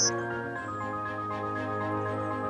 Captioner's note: loud bird chirping